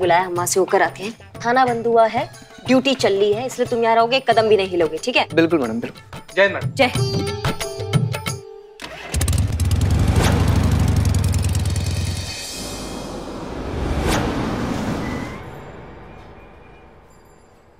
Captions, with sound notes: I'll go there. The station is closed. But your duty is still on. You'll stay right here. Do not move an inch. Absolutely madam. - Victory to India, madam. - Victory to India. [bike revving]